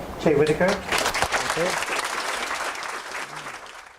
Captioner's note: audience claps